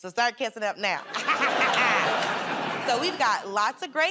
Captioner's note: laughter